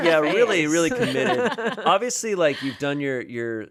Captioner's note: laugh